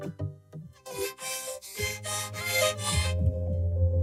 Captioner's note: panting